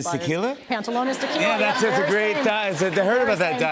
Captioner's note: laughter